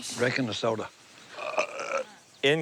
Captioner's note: burps